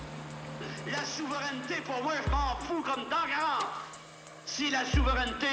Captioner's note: speaking foreign language